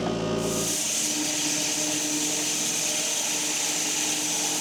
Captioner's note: log saw whirring